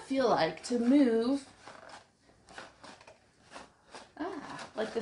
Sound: crunching

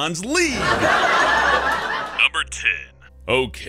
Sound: insert laugh track

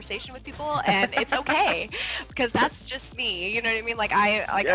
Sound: laugh

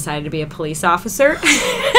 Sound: laughter

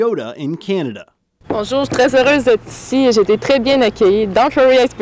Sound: Manon speaking French

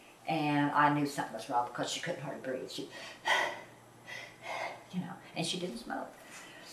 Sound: breathes deeply

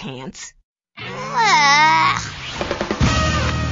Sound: groans in disgust

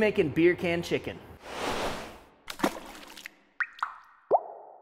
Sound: dripping sounds

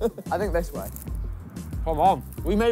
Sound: laughing

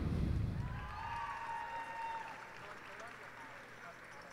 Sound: cheers and applause

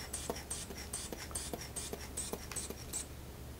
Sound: air pumping

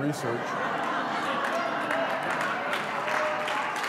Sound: laughter

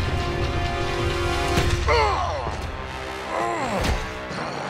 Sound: grunting; growling

